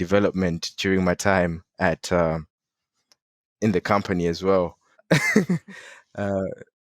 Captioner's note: laughing